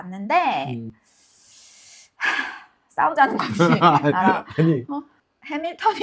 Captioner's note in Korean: 웃음